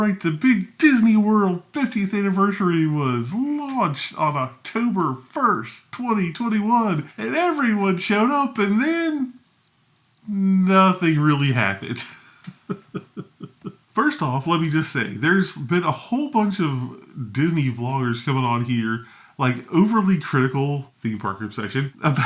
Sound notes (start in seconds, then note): 9.9 crickets chirping; 12.5 laughs